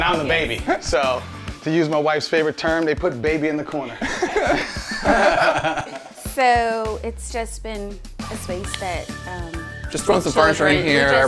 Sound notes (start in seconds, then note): 3.8 all laughing